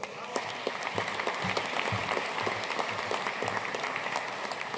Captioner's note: audience applauding